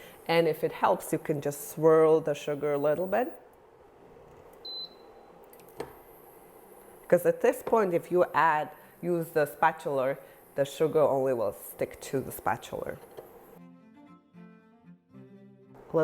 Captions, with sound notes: And if it helps, you can just swirl the sugar a little bit. (burner beeping) 'Cause at this point, if you use the spatula, the sugar only will stick to the spatula. (classical music continues)